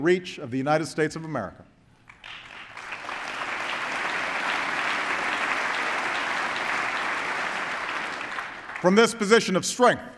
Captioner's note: applause